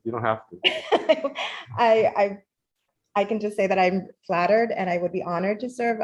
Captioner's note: laughs